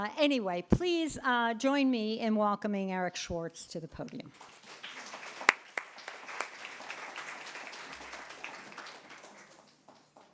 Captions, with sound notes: Anyway, please join me in welcoming Eric Schwartz to the podium. (group applauding)